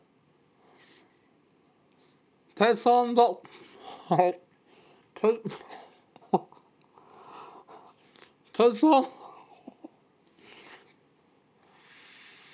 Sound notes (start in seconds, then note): 5.4 laughs